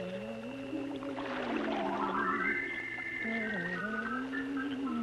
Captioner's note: water splashing